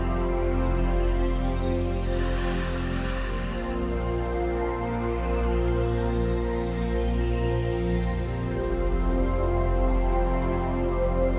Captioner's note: breathing